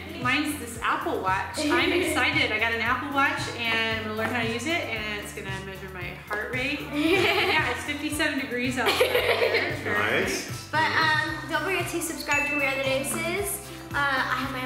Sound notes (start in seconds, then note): 8.8 laughing